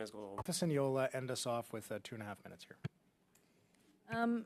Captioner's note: speaking French